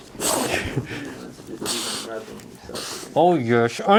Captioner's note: dog snorting happily